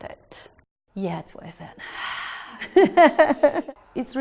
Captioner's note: laughs